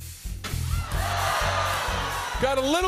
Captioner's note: audience ohs